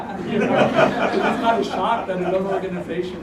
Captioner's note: laugh